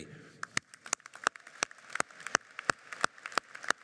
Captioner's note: audience applauds